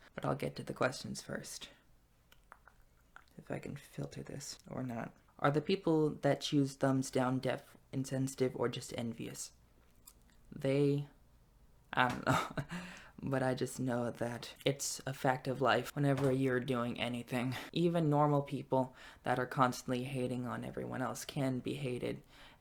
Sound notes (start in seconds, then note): 12.2 laughs